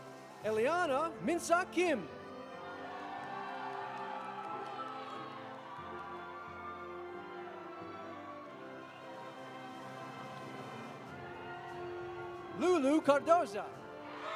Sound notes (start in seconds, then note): 2.3 audience applauding; 2.6 audience cheering